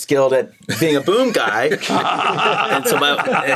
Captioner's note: all laugh